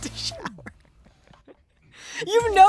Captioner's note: laughing